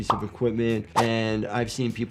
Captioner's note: graphics swishing